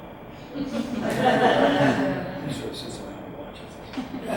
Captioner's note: audience laughs